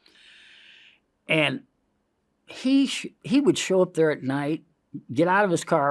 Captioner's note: inhales